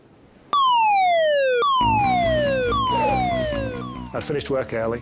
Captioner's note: siren blaring